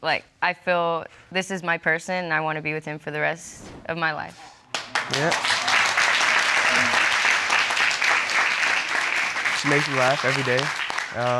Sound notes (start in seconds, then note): 4.7 audience applauds